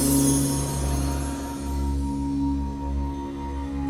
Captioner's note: none